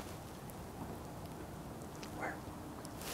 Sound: whispering

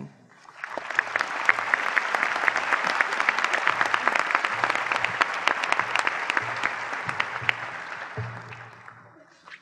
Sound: applause

